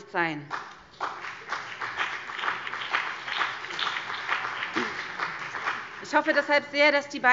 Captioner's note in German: Beifall BÜNDNIS 90/DIE GRÜNEN und vereinzelt CDU